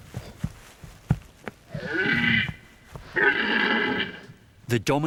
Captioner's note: red deer calls